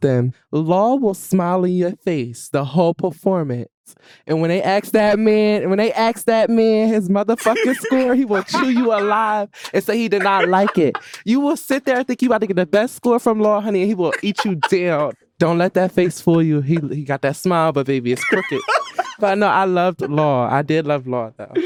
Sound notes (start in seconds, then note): 9.9 laughing; 13.7 laughing; 18.1 laughing